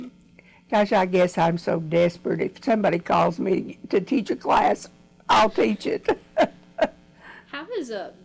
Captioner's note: laughs